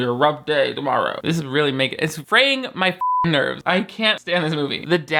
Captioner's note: beep